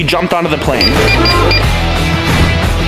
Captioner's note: ticket scanner beeping; intense rock music playing